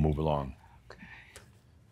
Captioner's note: whispers